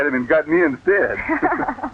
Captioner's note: laughter